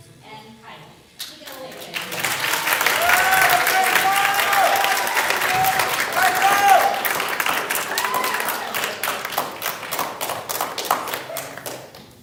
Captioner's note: applause